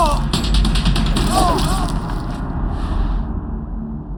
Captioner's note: groans